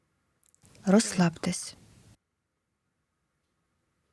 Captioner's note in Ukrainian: пауза